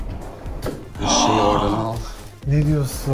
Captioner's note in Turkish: iç çeker